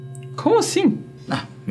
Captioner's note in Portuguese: none